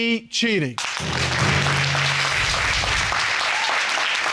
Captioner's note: audience applauds